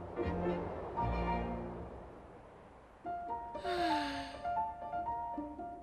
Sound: sighs

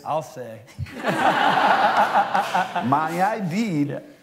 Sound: laughter

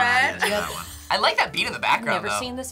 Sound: laughs

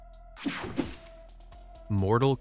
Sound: screen whooshing

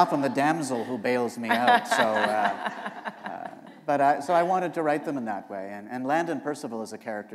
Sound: laughter

